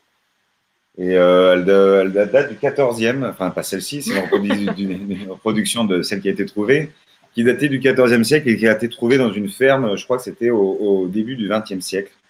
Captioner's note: not this one ! laughs